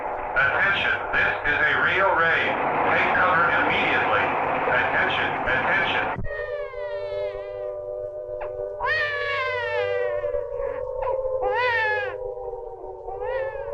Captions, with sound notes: Attention, this is a real raid. Take cover immediately. Attention, attention. (baby crying) (sirens blaring)